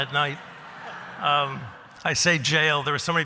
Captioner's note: laughter